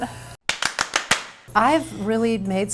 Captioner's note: hands clapping